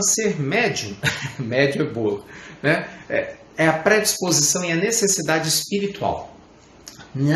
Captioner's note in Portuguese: risadas